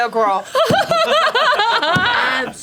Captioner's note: laughter